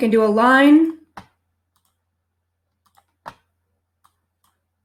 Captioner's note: mouse clicking